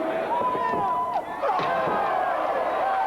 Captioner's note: crowd cheering